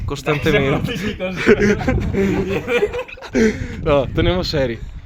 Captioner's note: laughter